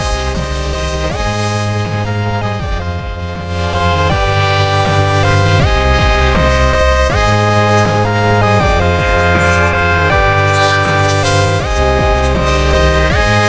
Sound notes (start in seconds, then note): 4.4 men screaming; 9.1 growling, yelling; 9.1 grunting